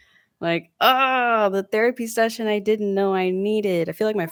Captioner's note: groans